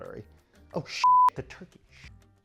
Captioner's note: beep